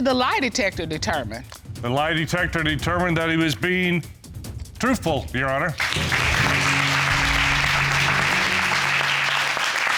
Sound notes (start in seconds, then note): 5.8 audience applauding